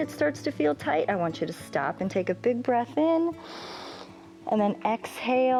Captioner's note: inhales